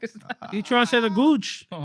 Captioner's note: laughing